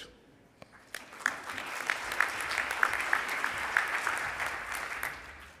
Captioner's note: audience applauds